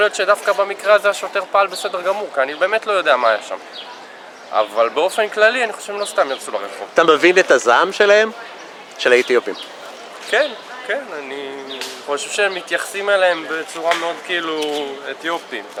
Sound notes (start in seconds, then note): 4.6 protests